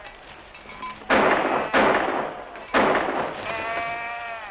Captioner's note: gunshots